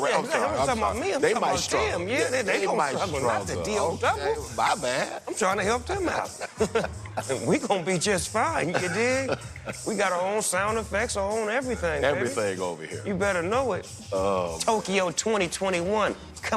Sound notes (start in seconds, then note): 6.0 both laugh